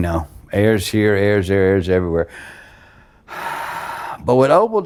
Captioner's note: sighing